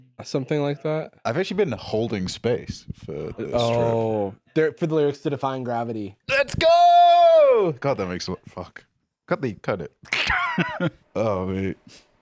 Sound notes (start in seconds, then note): 10.0 laughs